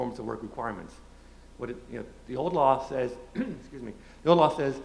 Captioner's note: clears throat